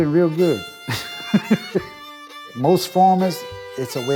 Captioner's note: laughs